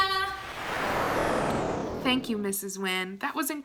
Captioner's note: whooshing